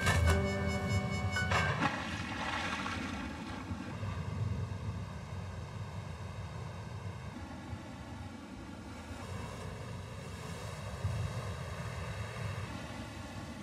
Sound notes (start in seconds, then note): 1.6 water splashing